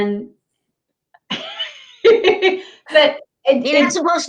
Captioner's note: laughs